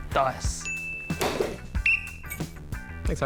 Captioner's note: blows whistle